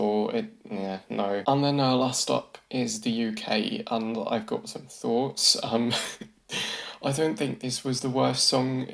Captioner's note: chuckles